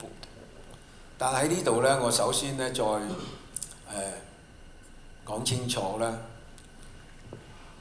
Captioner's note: Cantonese